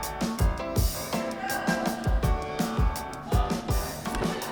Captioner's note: distant chatter